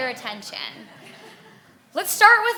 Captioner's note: audience laughing